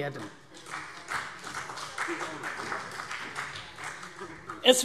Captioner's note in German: Vereinzelter Beifall CDU und BÜNDNIS 90/DIE GRÜNEN